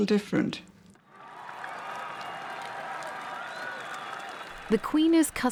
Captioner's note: crowds cheering